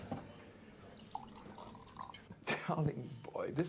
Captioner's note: liquid sloshing